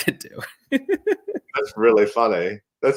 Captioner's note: laugh